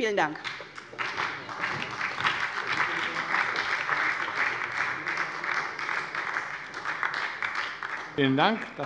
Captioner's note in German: Beifall bei der SPD